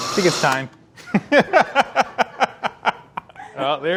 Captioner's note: laughing